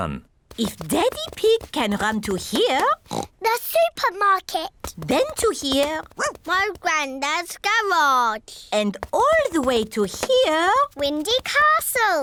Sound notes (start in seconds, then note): 3.0 oinks; 5.9 barks